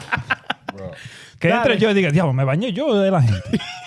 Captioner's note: laughing; speaking In Foreign Language; laughing